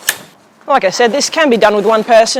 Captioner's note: pole clicks